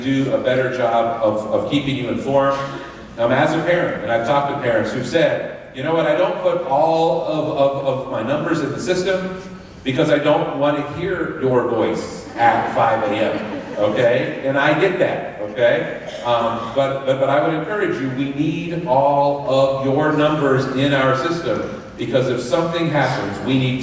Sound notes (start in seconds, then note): 13.0 laughter